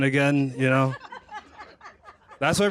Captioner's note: laughter